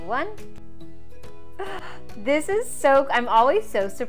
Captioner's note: gasps